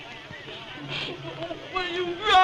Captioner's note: sniffs